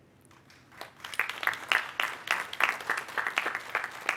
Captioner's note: applause